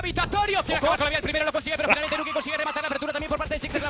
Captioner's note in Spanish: habla muy rápido